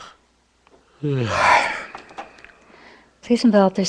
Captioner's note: takes breath